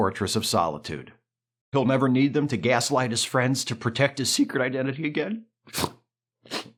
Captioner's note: sniff